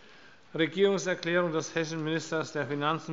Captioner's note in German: none